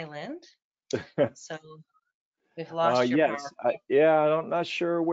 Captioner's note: hearty laughing